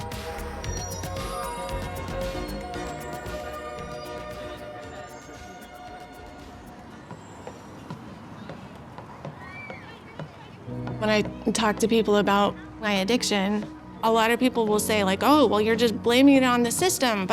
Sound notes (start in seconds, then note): 0.0 upbeat music continues; 9.4 people chattering; 10.7 gentle music